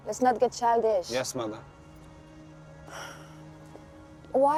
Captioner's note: sighing